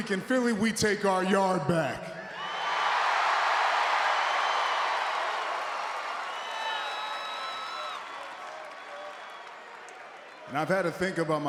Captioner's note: applause